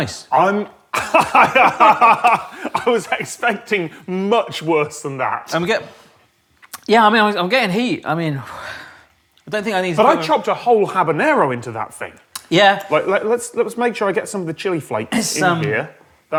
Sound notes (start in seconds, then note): 0.9 laughs; 8.2 sighs